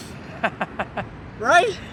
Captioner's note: laughs